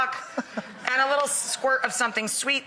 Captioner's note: laughs